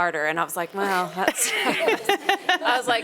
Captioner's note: panelists laughing